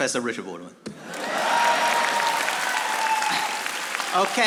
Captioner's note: audience applauding